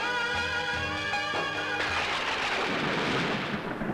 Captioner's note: Thunder rumbling